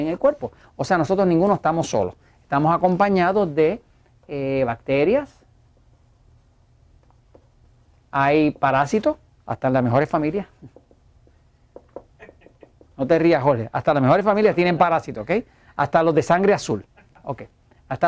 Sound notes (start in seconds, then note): 12.2 heh, heh, heh